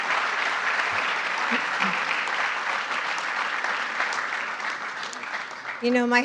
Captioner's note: applause